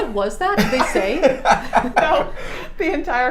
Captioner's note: laughing